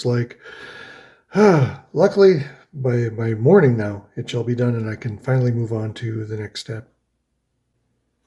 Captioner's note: sighs